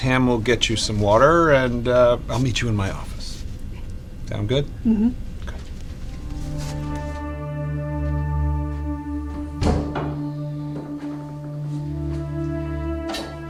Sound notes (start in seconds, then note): 6.0 dramatic music; 9.5 door thudding